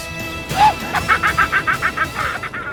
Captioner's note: evil laughter